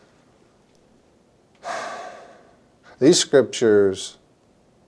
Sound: sighs

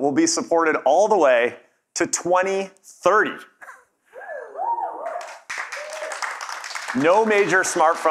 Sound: cheers and Applause

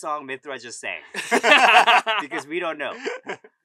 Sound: all laugh

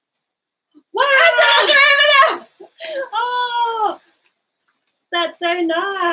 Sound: both exclaiming

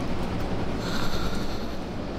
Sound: emma exhales

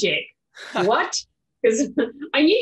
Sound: laughs

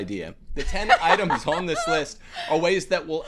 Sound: laughs

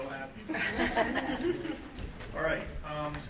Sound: laughter

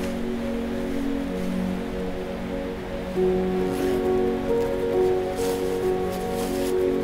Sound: rustling and zipper sounds; upbeat music

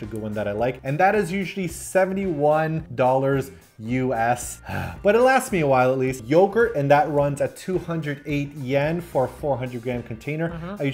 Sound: sigh

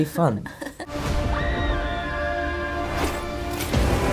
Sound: screaming

